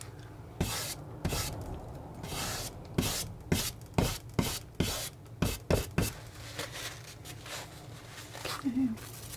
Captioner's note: scratching